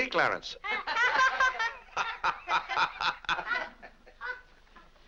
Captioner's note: family laughs